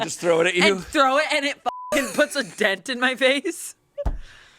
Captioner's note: beep